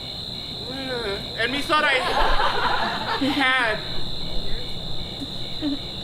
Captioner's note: groans